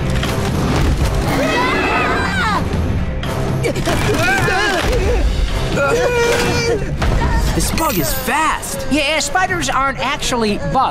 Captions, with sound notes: [screaming] [groaning] This bug is fast. Yeah, spiders aren't actually bugs.